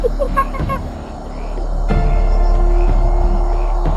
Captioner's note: animals chittering